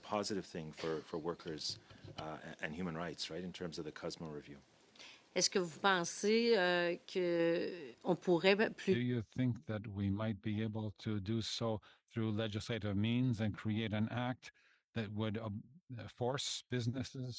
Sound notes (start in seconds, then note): 10.1 speaking French